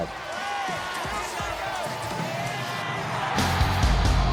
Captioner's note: cheering